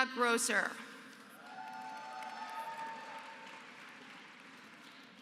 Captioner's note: applause